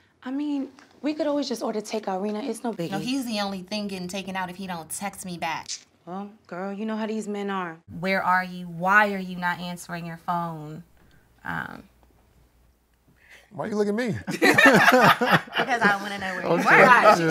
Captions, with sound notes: I mean, we could always just order takeout 'Rena, it's no biggie. No, he's the only thing getting taken out if he don't text me back. Well, girl, you know how these men are. Where are you? Why are you not answering your phone? Why you look at me? [Laughing] Because I wanna know where you were.